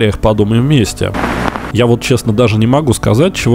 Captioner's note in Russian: помеха